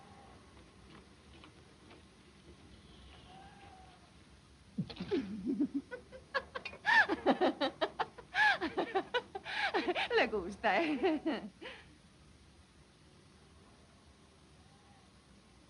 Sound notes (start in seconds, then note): 6.4 Abby se ríe; 11.6 risas